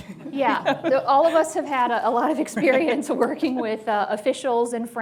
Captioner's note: laughter; chuckles; laughs